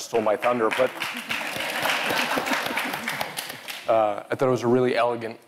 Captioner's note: all applauding